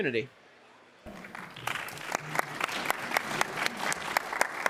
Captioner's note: applause